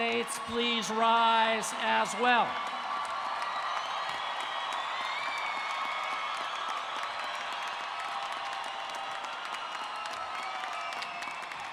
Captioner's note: cheers and Applause